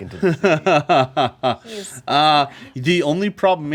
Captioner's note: laughing